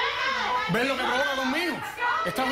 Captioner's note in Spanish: Comentarios al unísono